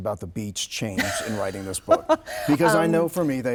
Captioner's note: laughing